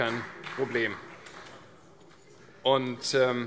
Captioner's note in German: Beifall CDU und BÜNDNIS 90/DIE GRÜNEN